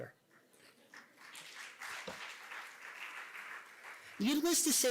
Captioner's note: applause